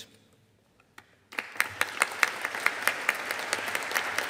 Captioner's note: audience applauding